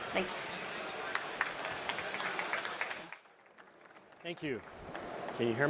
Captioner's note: applause